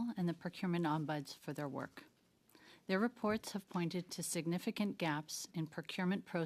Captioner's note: speaking French